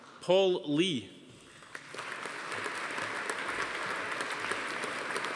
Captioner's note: audience applauding